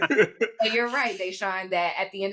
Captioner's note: laughs